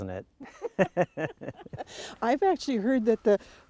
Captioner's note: laughing